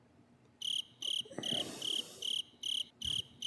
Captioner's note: awkward cricket